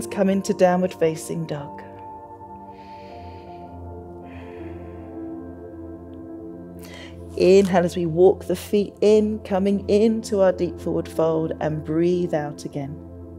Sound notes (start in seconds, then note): 2.6 inhales; 4.3 exhales